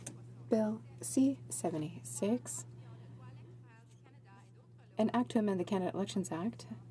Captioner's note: speaking French